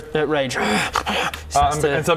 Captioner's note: hrr hgh